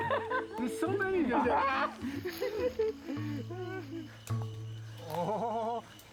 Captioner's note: laughing; laughing